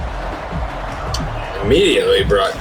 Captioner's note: crowd Noises